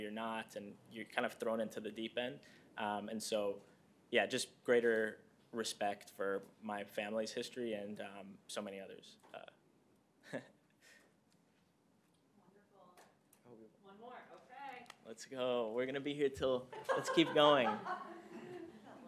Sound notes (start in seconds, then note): 10.2 laughter